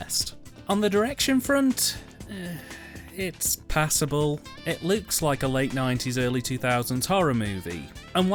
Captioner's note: sigh